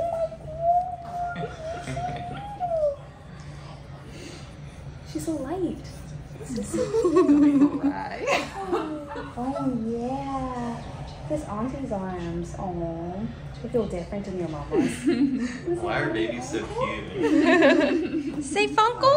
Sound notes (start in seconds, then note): 6.6 laughing; 14.7 laughing; 17.2 laughing